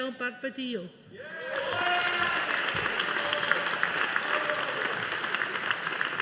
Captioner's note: audience applauding